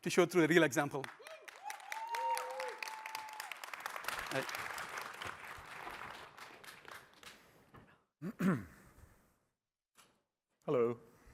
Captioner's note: applause